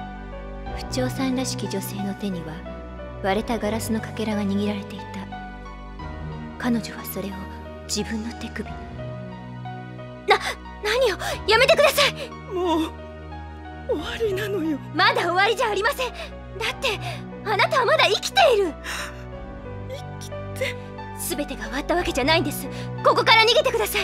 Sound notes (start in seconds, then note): 19.2 sobs